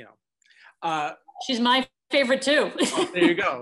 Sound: laughs

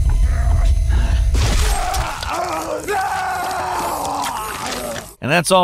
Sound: Isaac grunting; tense music; eye splattering; Isaac yelling

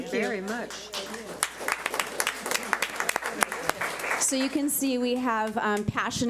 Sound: public applauding

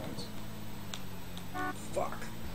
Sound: car horn

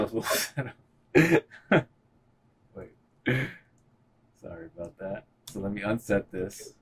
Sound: chuckling

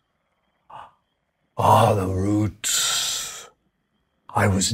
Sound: deep voice

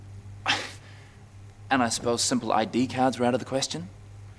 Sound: scoffs

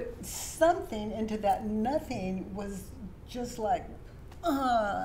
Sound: groans

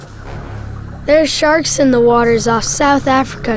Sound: voiceover

